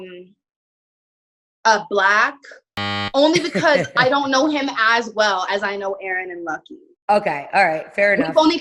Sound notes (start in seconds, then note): 2.8 beeping